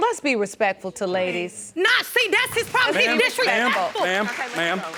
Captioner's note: audience applauding